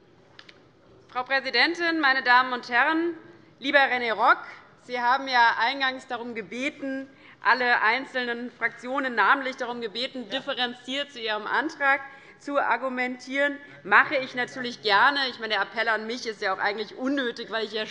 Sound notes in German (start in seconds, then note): none